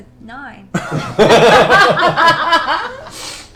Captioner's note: laughter